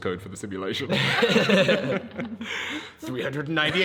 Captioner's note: group laughs